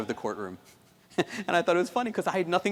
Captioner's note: chuckles